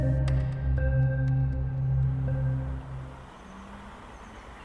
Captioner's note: outdoor bird sounds